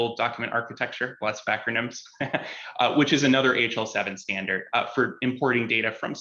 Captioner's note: chuckles